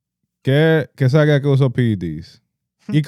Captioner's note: speaking In Foreign Language